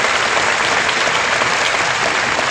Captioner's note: applause